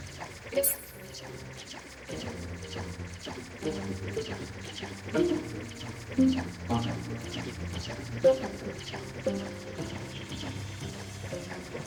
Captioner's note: electronic beeping